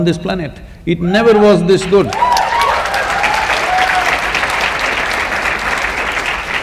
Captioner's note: cheers/Applause